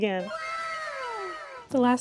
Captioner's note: anime WOW sound effect